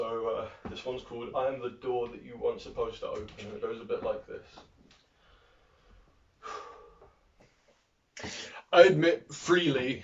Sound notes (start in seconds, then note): 5.1 deep breath